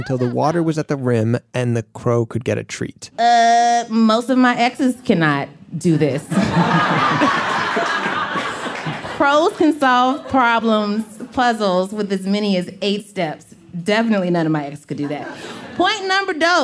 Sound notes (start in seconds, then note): 6.2 laughter